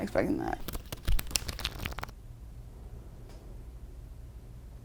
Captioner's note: cards shuffling